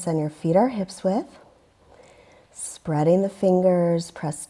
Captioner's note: deep breathing sounds